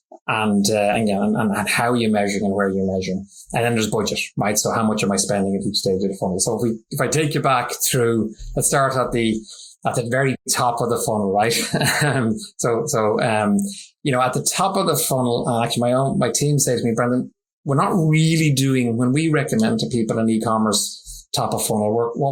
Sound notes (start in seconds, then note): 11.6 laughs